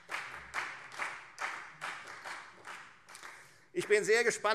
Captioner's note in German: Beifall Freie Demokraten